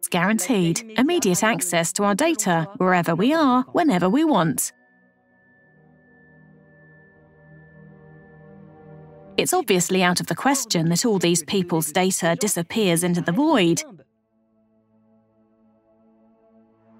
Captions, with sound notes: Immediate access to our data, wherever we are, whenever we want. [notification pings] It's obviously out of the question that all these people's data disappears into the void